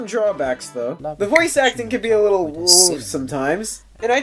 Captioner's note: groans